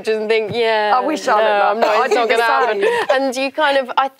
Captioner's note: laughs